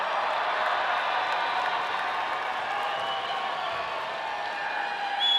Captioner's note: audience applauding